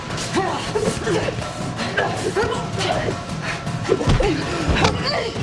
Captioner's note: both grunting